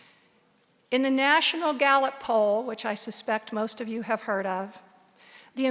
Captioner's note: none